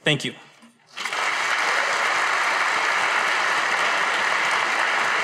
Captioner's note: audience applauding